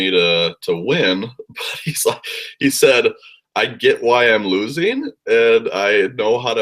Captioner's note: laugh